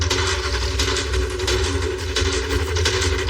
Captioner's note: engngine revs